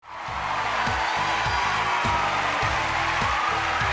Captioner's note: cheers and applause